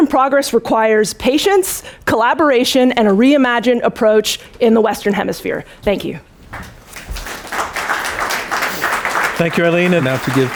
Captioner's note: applause